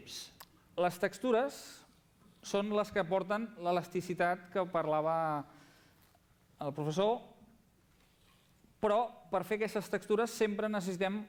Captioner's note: non-english speech